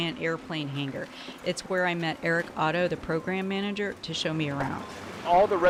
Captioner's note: landfill ambient sounds include truck motors, shuffling of garbarge